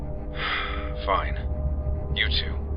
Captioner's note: sigh